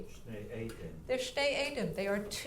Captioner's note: speaking in foreign language